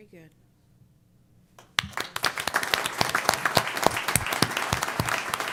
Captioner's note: applause